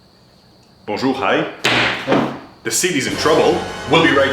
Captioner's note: speaks in foreign language